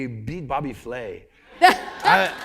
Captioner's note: laughter; applause